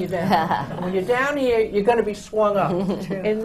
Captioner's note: laughter